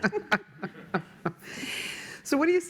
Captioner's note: laughter